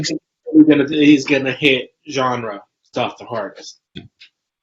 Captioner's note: Jose's mic warbles